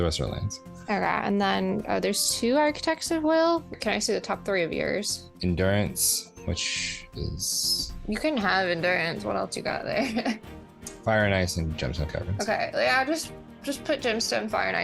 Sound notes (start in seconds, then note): 10.6 laughs